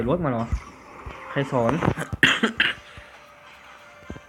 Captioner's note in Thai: ไอ